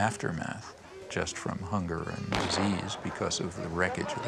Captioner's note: gunshot booming